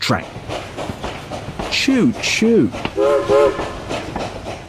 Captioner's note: train whistle blows